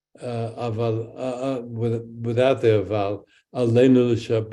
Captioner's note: speaks in Hebrew